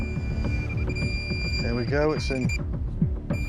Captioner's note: beeping fast